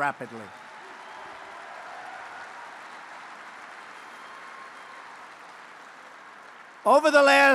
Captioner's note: applause